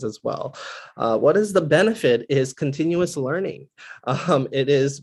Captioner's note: laugh